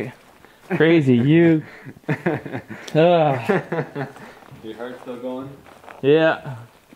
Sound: laughing

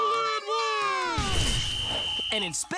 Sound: whistle blows

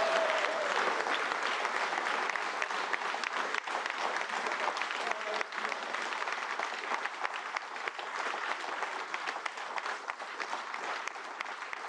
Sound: cheers

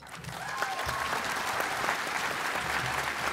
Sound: applause

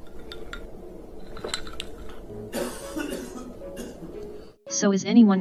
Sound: coughing

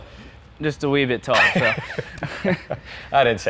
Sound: chuckles

